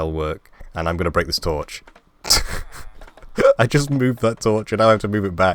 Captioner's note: laugh